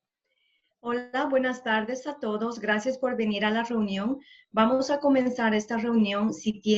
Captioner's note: Spanish